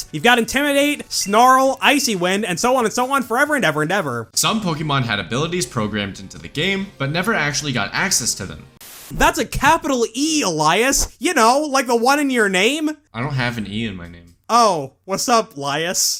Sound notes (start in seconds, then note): 8.8 static